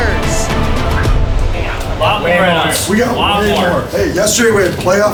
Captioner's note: chatter